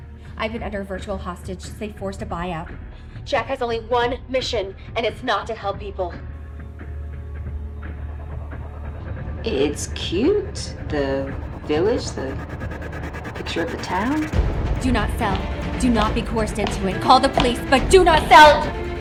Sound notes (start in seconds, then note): 14.9 footsteps approaching